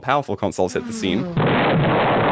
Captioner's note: explosion